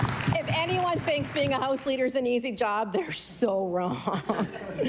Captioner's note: applause